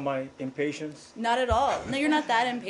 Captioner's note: laughter